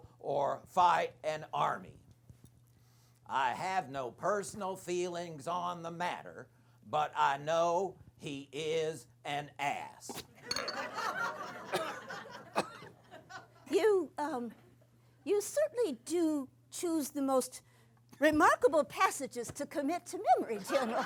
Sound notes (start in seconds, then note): 10.6 laughter; 11.6 coughing